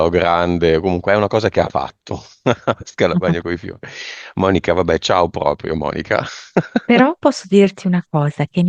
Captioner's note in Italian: risate